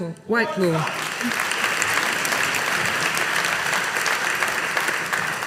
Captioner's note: audience applauding